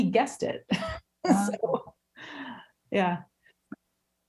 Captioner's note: laughing